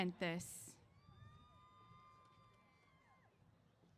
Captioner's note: cheers